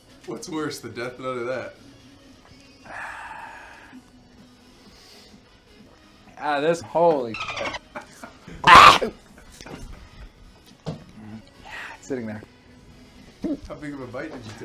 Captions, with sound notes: What's worse, the death nut or that? AH, THIS-- Holy *Dolphin noise* *Screaming Disgust* It's sitting there